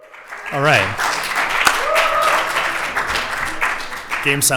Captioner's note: applause